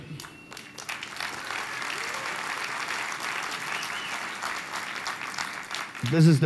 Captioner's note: applause